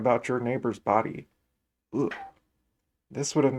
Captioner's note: shudder